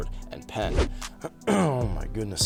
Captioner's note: clears throat